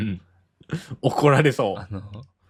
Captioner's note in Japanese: 笑い